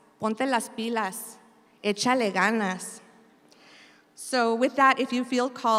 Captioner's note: speaks in Spanish